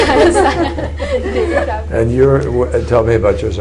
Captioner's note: laughter